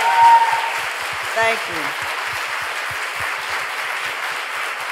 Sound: audience applauding

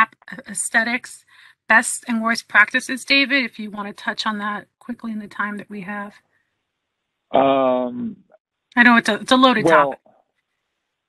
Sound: laughing

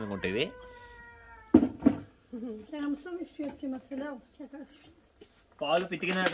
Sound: speaking in foreign language

